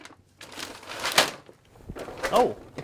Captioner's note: sound of bag hitting floor